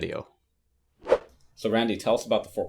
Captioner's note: logo whooshing